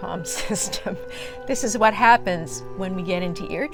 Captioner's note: laughter